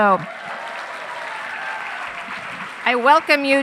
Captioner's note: audience cheering